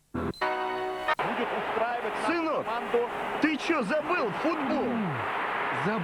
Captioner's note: noise from a football match